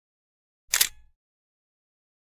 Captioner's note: camera shutter clicks